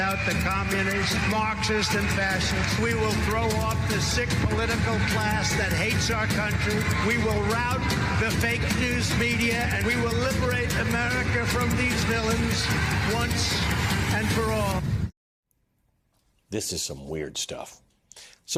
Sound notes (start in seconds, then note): 6.1 applause